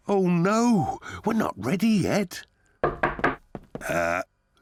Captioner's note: knock at door